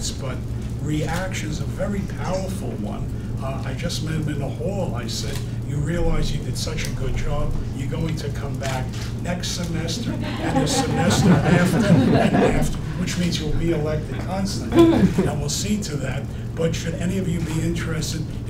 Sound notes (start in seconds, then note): 9.9 audience laughing